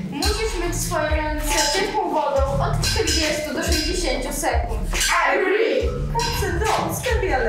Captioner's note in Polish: Po polsku; Po angielsku